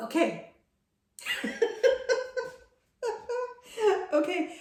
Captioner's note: woman laughing